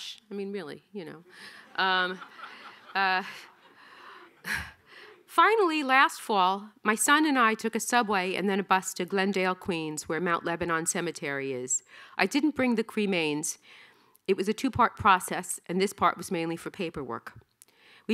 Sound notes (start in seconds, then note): 1.8 audience laughing